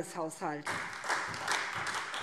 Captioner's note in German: Beifall SPD